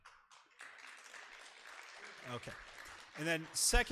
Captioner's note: audience applause